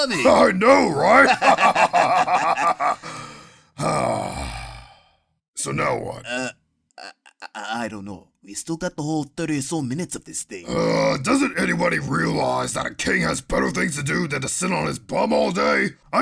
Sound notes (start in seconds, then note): 1.1 laughter